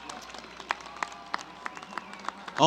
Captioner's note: applause